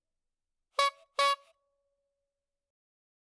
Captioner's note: clown horn